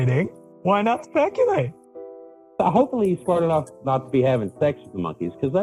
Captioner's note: laughs